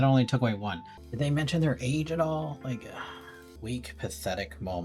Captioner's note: tired sigh